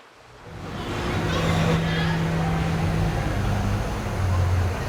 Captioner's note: all chattering